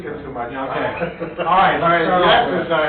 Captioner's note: laughing